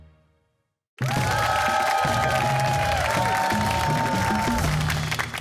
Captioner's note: cheers and applause